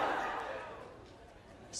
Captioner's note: crowd laughing